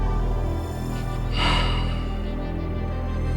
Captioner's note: frustrated sigh